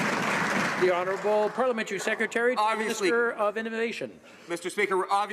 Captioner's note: some Applause